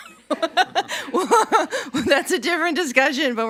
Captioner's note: laughing